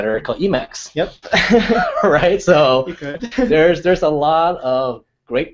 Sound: laugh

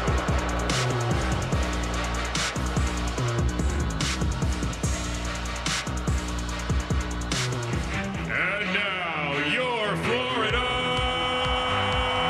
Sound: crowd noise

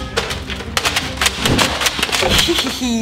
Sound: Nerf gun clicks

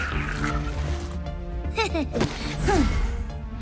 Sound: chuckles

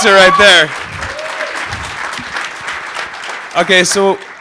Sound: applause

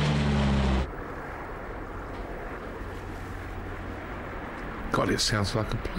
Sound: plane engine roaring

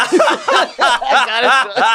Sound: laughter

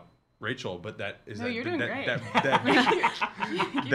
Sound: laughing

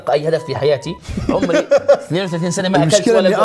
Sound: laughs

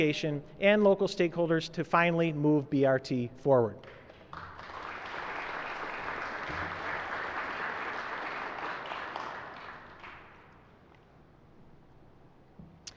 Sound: applause

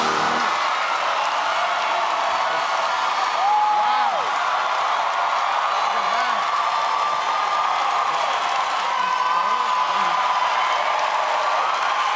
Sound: cheers and applause

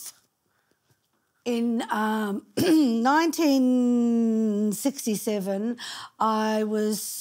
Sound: clearing throat

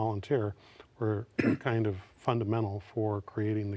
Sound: cleared throat

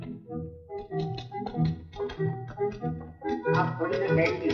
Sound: typewriter keytop clacking

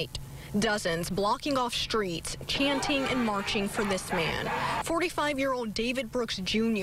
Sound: crowd chanting

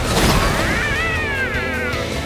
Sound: squeaking

